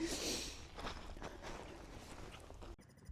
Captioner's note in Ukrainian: сопіння